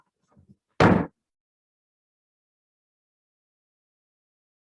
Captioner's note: gavel knocks